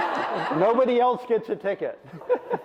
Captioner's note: audience laughs